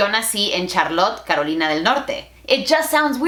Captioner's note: Spanglish